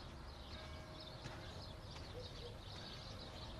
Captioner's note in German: Kirchenglocken